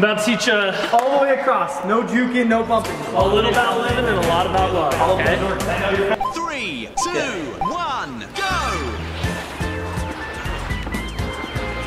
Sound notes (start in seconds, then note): 5.3 honky tonk music; 6.5 voiceover; 9.1 comical music